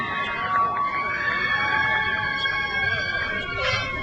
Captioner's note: crowd cheers